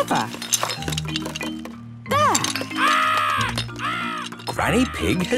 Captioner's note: seagulls cries